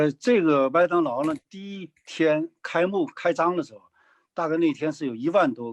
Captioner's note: speaking in foreign language